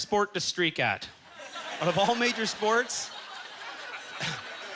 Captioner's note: audience chuckling